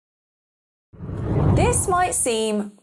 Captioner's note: air whooshing